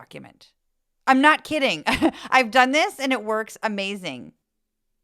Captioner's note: laugh